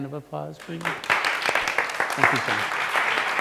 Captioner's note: audience applauds; audience applauding